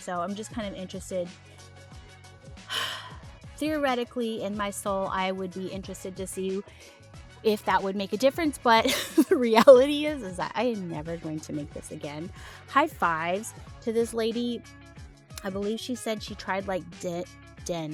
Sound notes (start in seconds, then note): 2.7 sigh